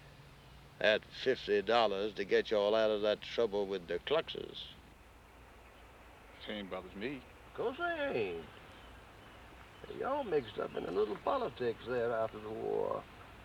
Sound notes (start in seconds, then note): none